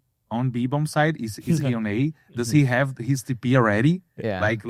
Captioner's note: laughs